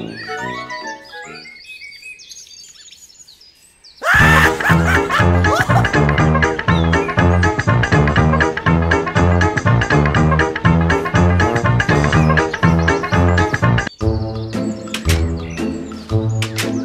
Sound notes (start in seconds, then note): 4.0 laugh; 4.0 laughs